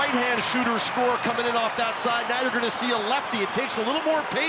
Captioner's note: cheering